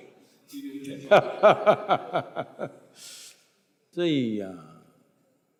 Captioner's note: Sadhguru laughs